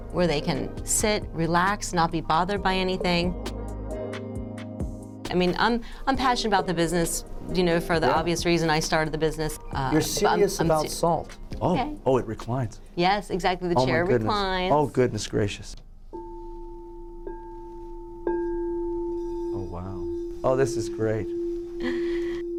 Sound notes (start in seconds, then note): 16.1 echoed ringing